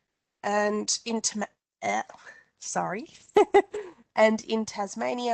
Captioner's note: chuckles